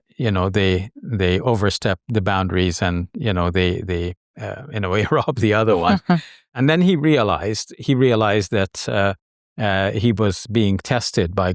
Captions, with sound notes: you know, they overstep the boundaries, and you know, they, in a way, (laughs) rob the other one. And then he realized that he was being tested by God,